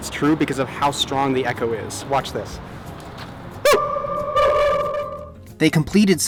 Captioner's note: strong, quick echo